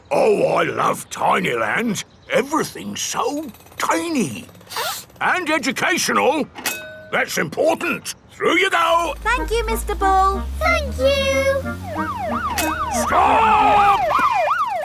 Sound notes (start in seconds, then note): 4.6 sniffs; 12.3 siren wailing